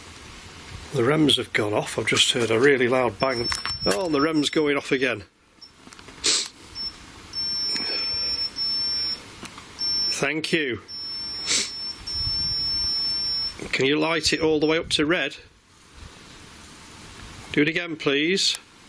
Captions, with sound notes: The REMs have gone off, I've just heard a really long bang. Oh, the REMs going off again. (beeping) Thank you. Can you light it all the way up to red? Do it again please.